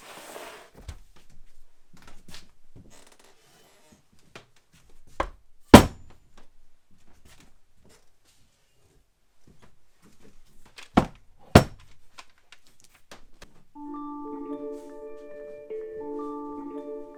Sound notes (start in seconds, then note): 5.8 block clanging; 13.7 tranquil music